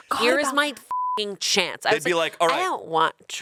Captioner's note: beep